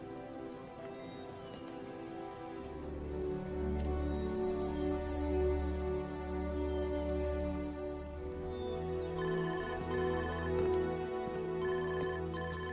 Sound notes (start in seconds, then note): 8.1 phone ringing